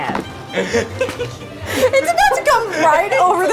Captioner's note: laughter